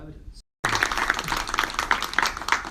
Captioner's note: audience claps